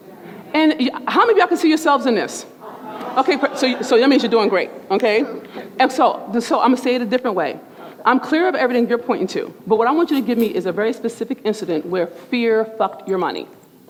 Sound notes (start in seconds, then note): 2.6 murmurs